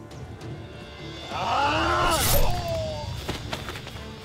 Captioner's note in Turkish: Bağırma sesi